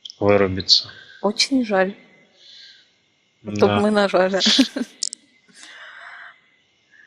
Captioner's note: laughing